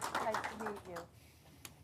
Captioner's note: applause